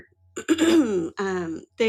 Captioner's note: clears throat